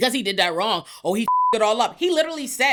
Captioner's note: beep